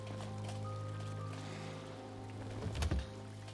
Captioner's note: sighs